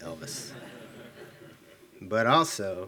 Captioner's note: attendees laughing